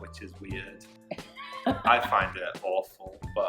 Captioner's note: laughing